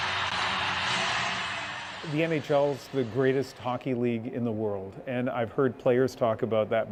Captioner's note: cheers and Applause